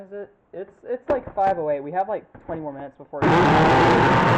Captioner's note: drilling